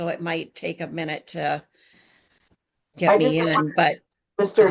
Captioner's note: faintly speaking